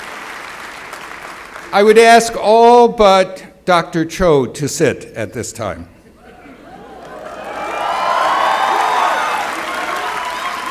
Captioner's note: applause